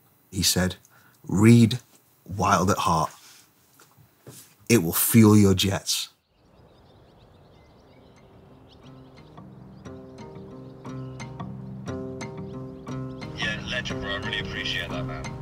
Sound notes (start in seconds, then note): 6.2 birds chirping; 8.1 light country music